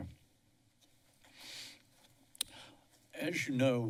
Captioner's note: silence